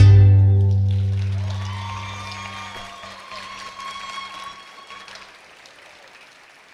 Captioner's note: attendees clapping and cheering